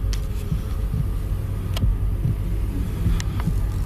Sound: heart beating

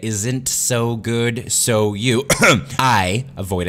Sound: ahem

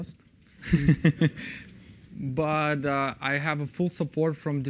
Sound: laughter

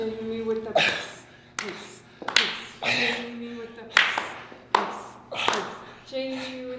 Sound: applause

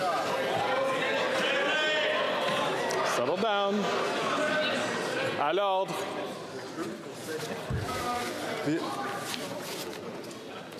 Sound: yelling

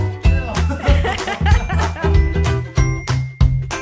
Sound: laughing

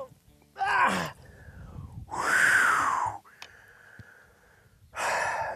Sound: sighs; sighs

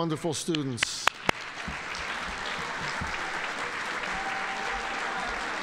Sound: audience applauding

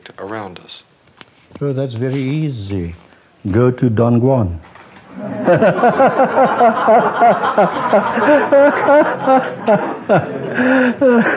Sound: laughter

